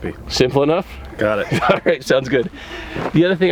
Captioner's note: laughs